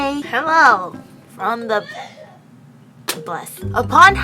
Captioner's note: sneeze in background